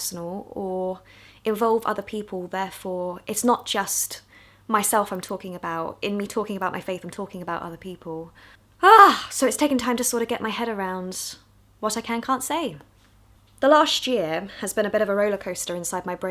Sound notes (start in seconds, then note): 8.8 exclaims